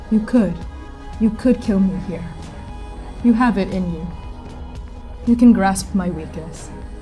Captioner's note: none